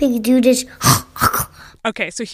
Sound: snorting noise

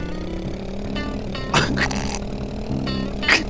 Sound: giggles

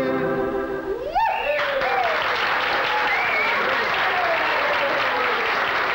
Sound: cheering and applauding

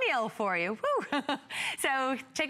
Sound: laughter

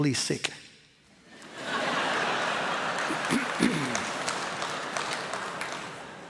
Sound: laughter

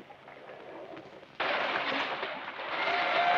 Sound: water splashing; people cheering

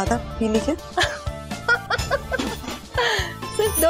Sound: Jyoti laughs

